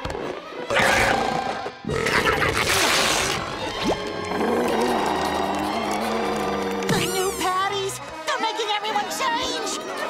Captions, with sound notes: [belching] The new patties, they're making everyone change!